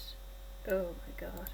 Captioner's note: laptop whirring